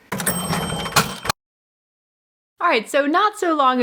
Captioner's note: cash register rings